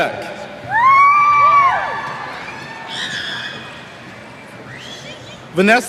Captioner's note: cheers